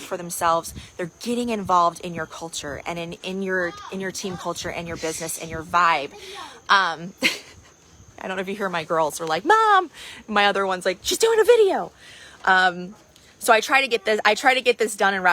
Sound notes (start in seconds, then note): 7.1 laughs